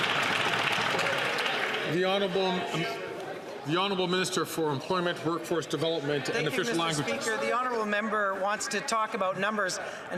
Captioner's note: some Applause